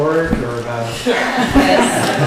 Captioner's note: laughter